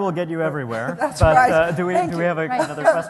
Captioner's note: laughter